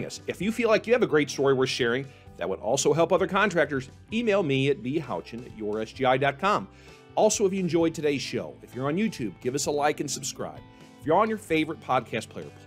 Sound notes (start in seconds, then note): none